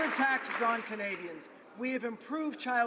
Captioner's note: some Applause